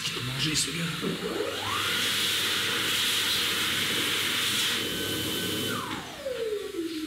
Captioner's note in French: Bruit de sèche-mains